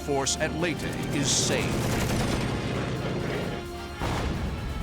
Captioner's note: rapid gunfire